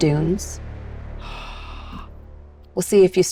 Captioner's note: gasps